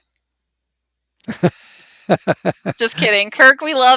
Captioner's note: laughs